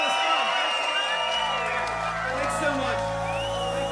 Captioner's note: audience applauding